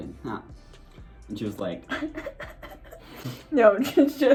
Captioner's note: laughs